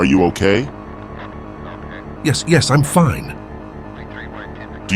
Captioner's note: pulsating sound